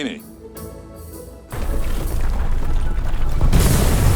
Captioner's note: ground rumbles